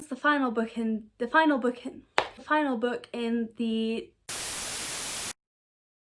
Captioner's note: static